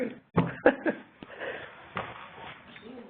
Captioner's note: laughs